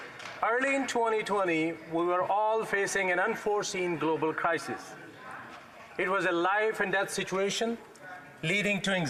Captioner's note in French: voix de l'interprète